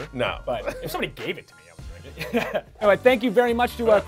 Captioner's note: laughing